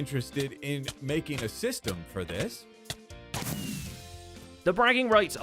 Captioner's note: fireworks explode